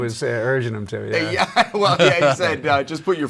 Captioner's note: chuckles